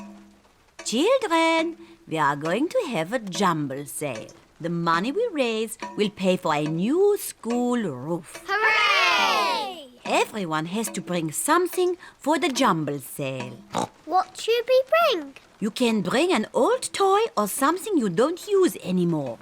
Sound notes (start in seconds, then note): 13.7 oinks